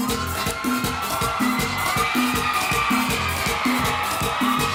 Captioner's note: audience cheering